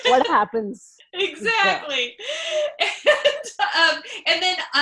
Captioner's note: laughing